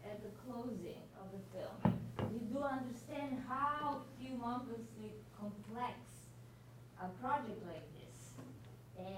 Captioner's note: none